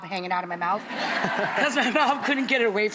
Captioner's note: audience laughing